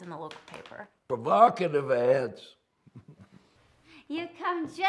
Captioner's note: chuckles